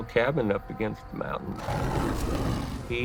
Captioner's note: growling